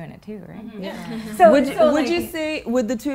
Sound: women agreeing

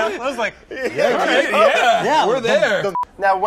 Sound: agreeing in unison

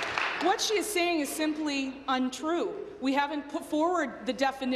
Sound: applause

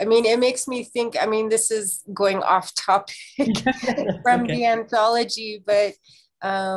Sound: laughs

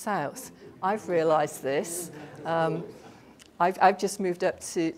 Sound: audience murmurs

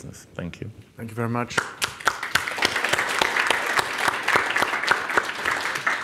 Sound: audience applauding

